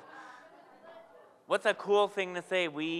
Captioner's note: audience members yell out